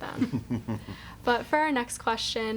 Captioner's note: laughing